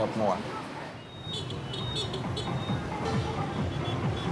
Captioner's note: honking